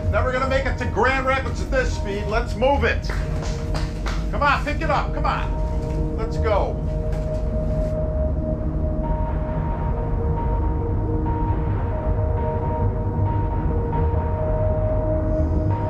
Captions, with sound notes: Never gonna make it to Grand Rapids at this speed. Let's move it. (clapping) Come on, pick it up. Come on. Let's go. (pensive music)